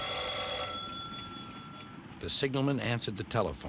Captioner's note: phone rings